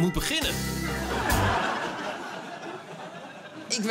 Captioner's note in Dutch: Gelach